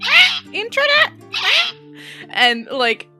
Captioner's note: parrot screeching